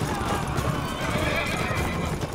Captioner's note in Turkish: At kişniyor